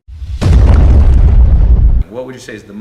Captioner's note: loud explosion